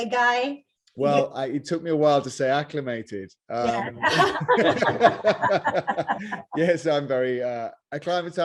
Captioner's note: laughter